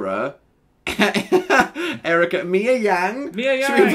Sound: laughing; laughing

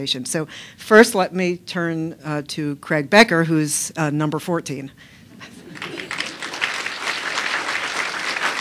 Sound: applause

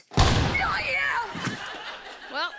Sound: gun shot

